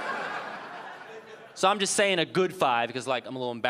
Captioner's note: audience laughing